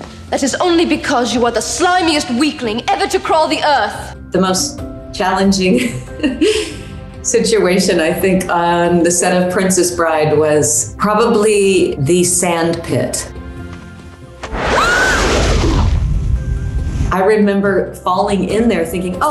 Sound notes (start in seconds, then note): 5.8 chuckles; 14.6 screaming